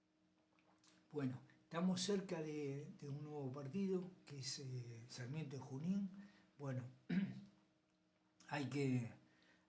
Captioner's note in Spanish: carraspeo